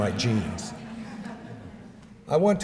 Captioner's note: laughter